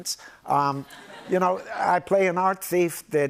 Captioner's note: laughter